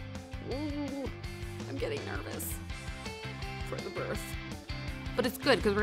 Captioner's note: moans